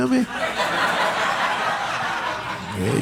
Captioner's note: audience laughing